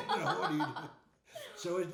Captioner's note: laughing